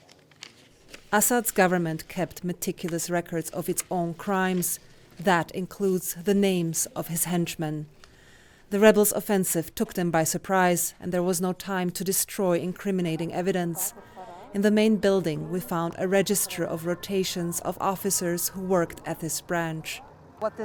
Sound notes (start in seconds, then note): 1.6 voice-over